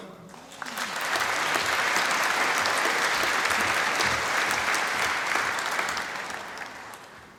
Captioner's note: applause